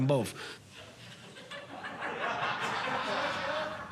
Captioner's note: laughter